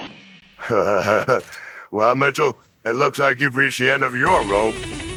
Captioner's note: chuckles